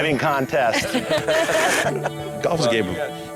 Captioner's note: lalaugughthterer